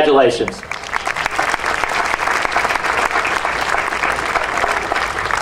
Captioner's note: audience applauding